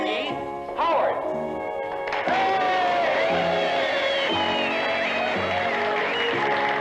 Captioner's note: applause